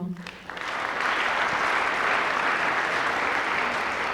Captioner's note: applause